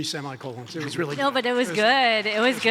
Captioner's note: audience applauds